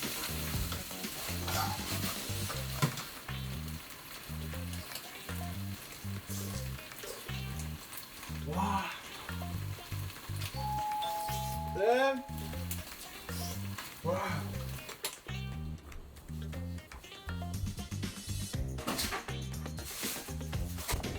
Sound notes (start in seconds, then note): 10.5 ding dong! 🔔